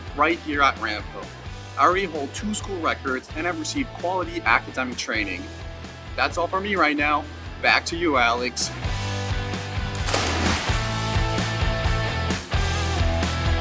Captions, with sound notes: right here at Ramapo. I already hold two school records and have received quality academic training. That's all for me right now. Back to you, Alex. (water splashing) (upbeat music)